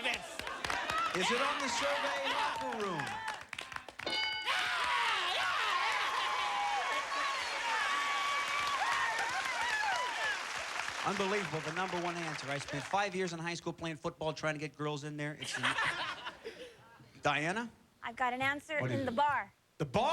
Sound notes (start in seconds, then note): 7.4 cheers and applause